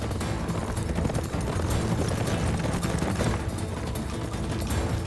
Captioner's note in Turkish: At nalı sesleri